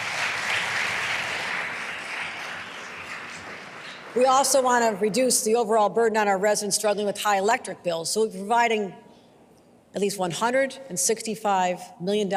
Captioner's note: applause